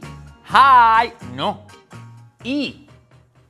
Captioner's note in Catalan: en anglés; en valencià